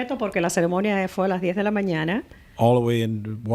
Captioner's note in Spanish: Hablando ingl\s